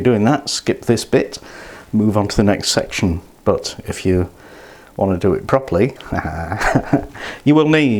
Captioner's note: laughs